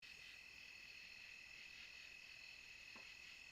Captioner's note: insects chirp